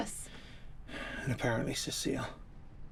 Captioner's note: sighs